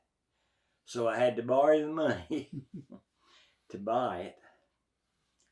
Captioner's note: chuckles